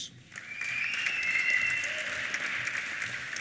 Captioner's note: applause; cheers and whistles